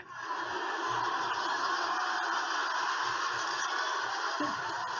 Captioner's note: audience laughing